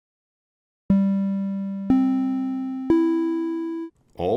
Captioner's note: audio Alert